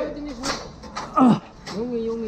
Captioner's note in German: stöhn